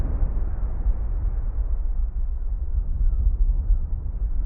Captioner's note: sound of echoey waves